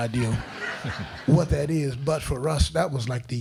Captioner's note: crowd laughing